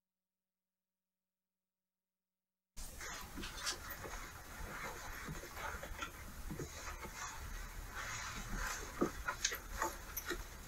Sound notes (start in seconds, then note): 3.2 footsteps plodding